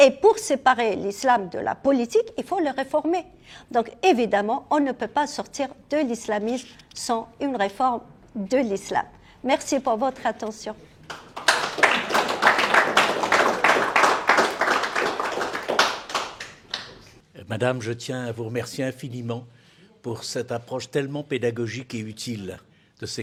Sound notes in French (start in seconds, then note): 13.9 applaudissements